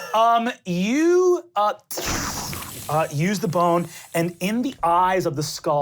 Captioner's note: electronic sparkling